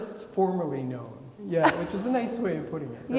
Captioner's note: laughing